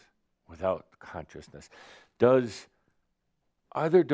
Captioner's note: none